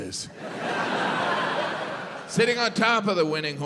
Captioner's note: crowd laughs